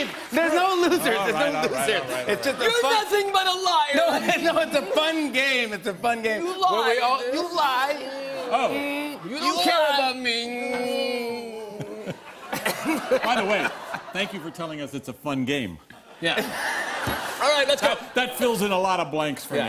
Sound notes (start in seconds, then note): 11.7 laughter